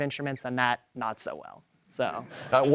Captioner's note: audience laughter